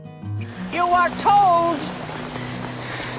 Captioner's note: voiceover